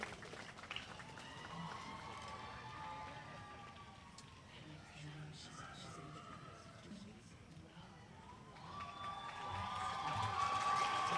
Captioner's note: applause